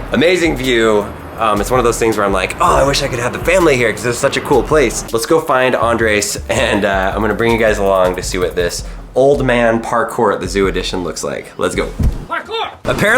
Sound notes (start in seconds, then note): 6.2 laughing